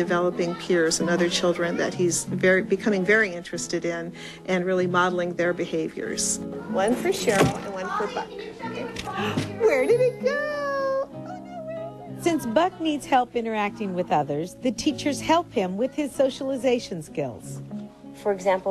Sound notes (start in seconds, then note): 6.4 sound of children playing